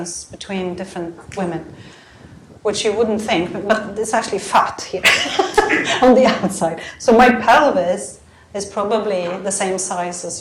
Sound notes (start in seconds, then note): 5.0 chuckles